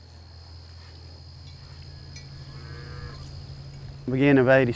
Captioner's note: background farm sounds, cows mooing